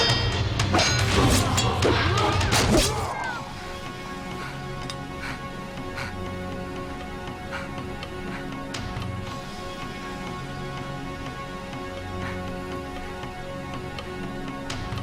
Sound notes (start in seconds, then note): 0.7 metal clanging; 0.8 snick; 2.4 thud; 4.0 gasping